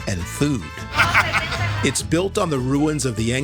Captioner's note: person laughing